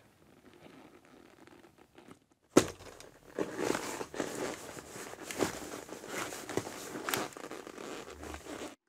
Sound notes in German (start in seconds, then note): 0.1 Leises Knarzen; 2.5 Dumpfer Klang; 2.6 Packendes Geräusch